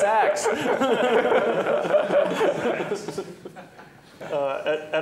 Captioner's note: laughter